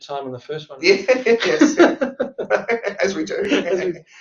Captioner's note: both laughing